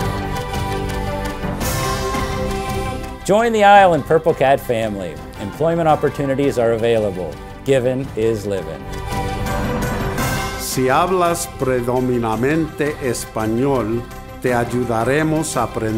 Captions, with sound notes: - Join the ISLE and Purple Cat family. Employment opportunities are available. Giving is living. (man speaks in foreign language)